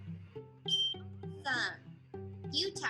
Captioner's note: bell dings